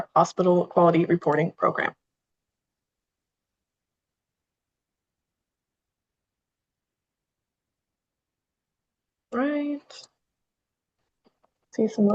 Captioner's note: pause